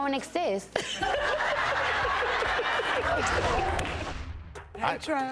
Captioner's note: audience laughing